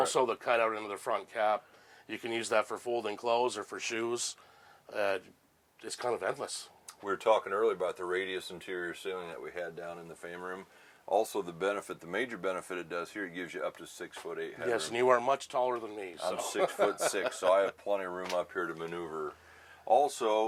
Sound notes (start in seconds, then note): 16.2 laughs